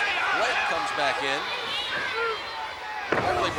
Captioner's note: blows thudding